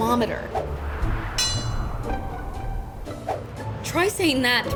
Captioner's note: image whooshing; bell dinging